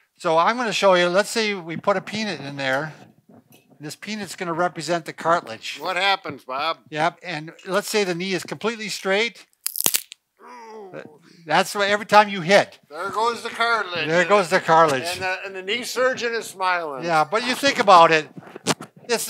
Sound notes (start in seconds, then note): 9.5 peanut crunches; 10.4 groans